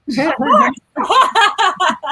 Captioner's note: laughter